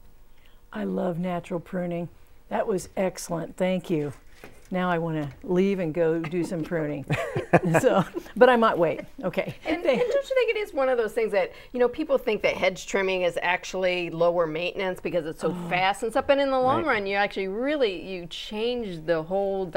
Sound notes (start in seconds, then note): 9.9 laughing